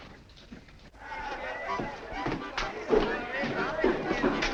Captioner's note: crowd talking and laughing